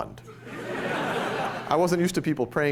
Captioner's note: laughter